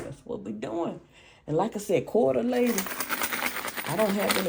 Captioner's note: coins jingling